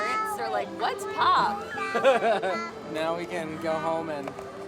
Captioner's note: laughs